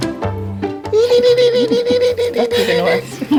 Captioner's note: playful sounds